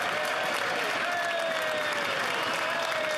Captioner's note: cheering; applause